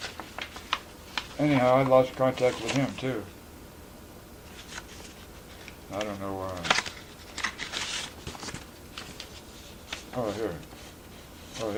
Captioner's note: sounds of paper shuffling